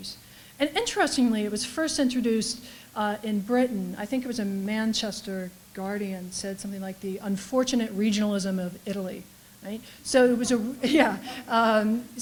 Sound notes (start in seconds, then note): 10.2 reaction from audience; 10.3 laughter